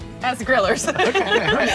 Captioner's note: group laughing